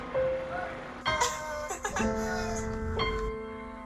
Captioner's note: laughter